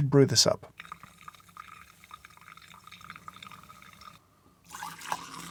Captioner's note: coffee brewing